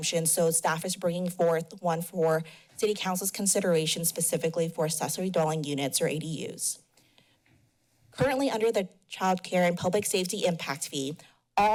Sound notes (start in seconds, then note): 6.7 pause